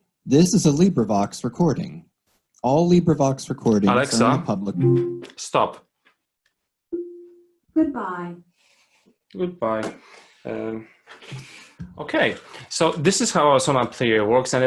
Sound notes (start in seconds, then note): 4.8 electronic beep; 6.9 electronic beep